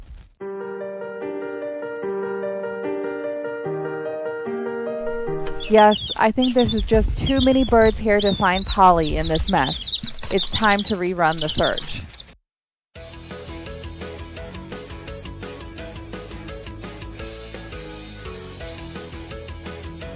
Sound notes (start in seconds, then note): 5.5 birds singing and wings flapping in background